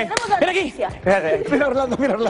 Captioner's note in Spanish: risas